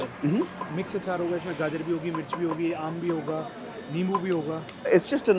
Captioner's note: speaking in foreign language